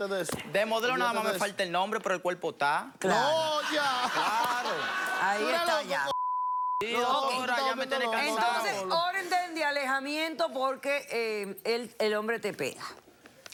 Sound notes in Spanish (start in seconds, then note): 3.6 Risas